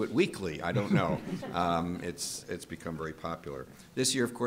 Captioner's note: group laughter